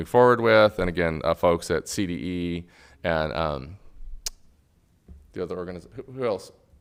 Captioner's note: clicks